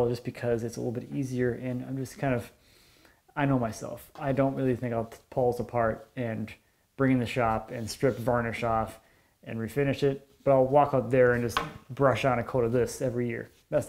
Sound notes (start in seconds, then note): none